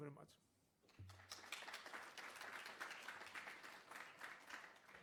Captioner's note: applause